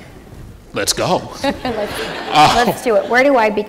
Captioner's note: laughter